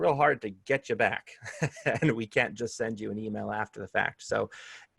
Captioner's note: laughter